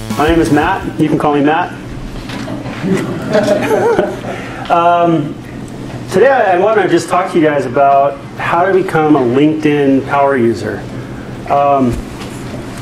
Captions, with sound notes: - My name's Matt, you can call me Matt. (class laughing) Today I just wanna talk to you guys about how to become a LinkedIn Power User.